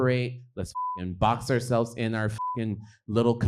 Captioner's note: beep